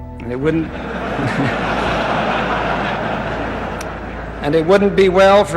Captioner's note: congregation laughing